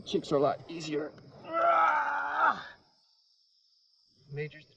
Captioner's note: groaning